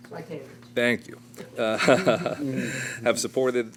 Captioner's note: laughter